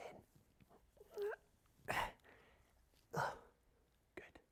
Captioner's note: groans